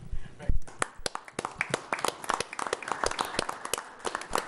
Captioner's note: group applauding